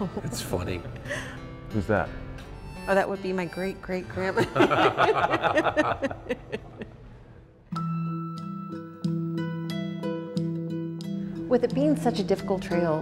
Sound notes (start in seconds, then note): 4.3 laughter